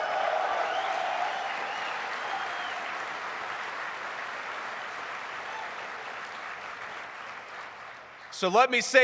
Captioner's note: applause